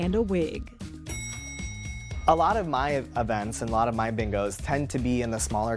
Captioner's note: elevator chimes